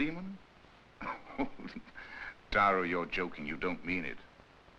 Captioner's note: chuckles